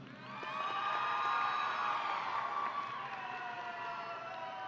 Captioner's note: audience cheering